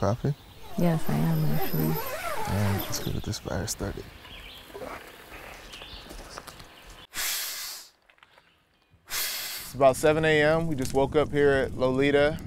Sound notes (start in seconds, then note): 0.6 zipper zips; 4.1 birds chirping; 7.0 air blows